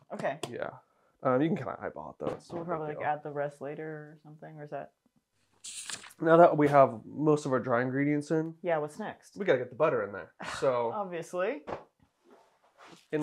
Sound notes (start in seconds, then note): 5.6 page turning; 10.9 scoffs